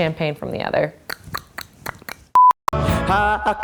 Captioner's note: tongue clicking